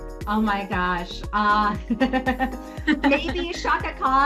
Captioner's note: laughing